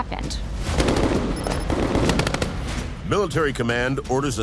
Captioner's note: guns firing